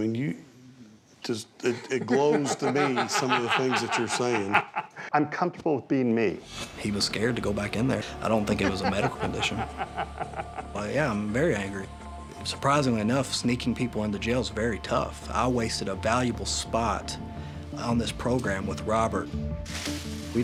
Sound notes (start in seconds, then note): 4.7 laughs; 8.3 laughter